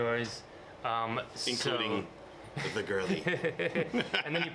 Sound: laughs

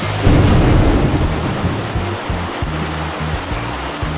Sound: thunder rumbling

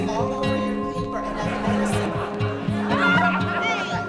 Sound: chatter

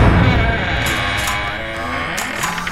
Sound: door creaks

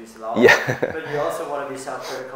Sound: laughs

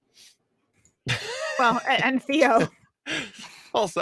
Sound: laughing

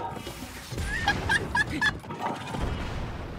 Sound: laughter

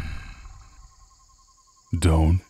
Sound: A rumbling, male voice cautions you to freeze in your tracks

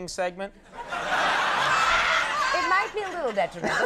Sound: audience laughing

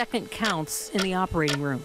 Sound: clock ticking

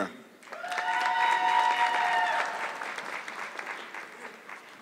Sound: audience clapping

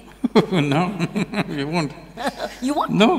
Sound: laughs

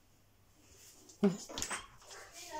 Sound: door opening

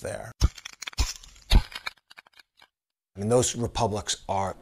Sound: camera shutter snaps

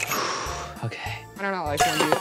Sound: sighs

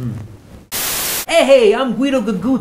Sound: static hisses

